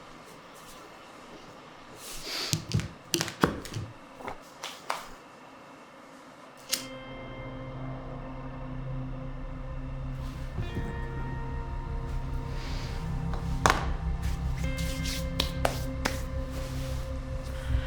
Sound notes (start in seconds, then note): 2.0 sniffs; 4.6 hands clap; 7.0 expectant music; 15.3 hands clap